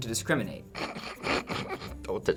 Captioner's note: snickers